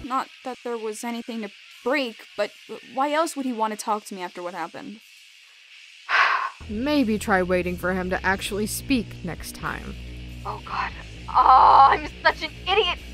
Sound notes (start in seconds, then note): 6.1 sighs